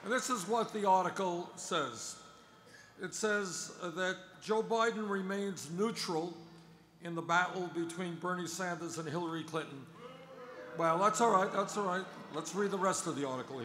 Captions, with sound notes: And this is what the article says. It says that Joe Biden remains neutral in the battle between Bernie Sanders and Hillary Clinton. [Boos] Well that's alright, that's alright, let's read the rest of the article here.